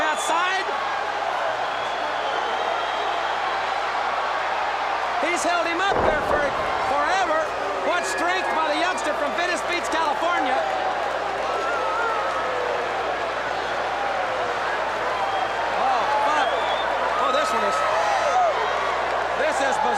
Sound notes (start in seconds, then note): 10.8 crowd chatter